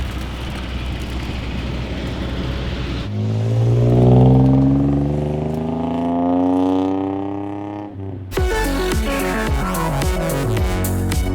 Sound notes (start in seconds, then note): 3.5 car engine roaring; 8.3 upbeat music